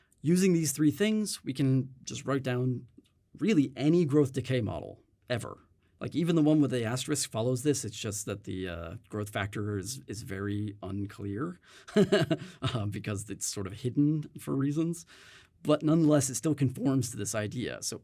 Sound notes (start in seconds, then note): 11.9 chuckles